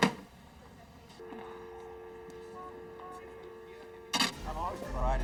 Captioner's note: dial tone humming